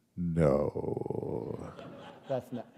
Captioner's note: laughter